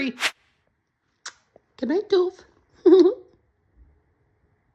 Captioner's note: Smooch